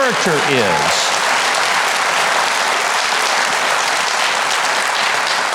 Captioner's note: audience applauding